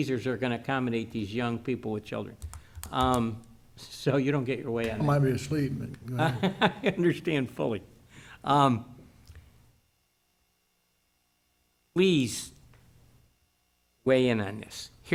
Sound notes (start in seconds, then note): 6.0 laughs